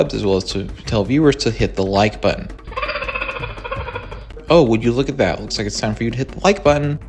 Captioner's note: cheetah chirps